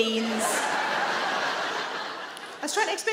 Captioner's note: audience laughing